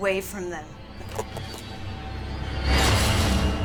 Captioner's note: bones cracking; dramatic music